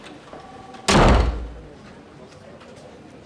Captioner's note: door slams